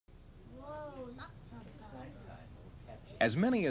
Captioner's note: people talking